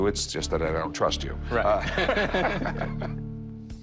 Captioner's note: laughs